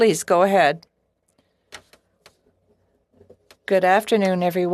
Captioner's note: speaking French